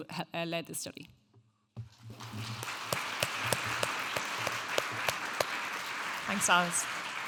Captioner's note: audience applauding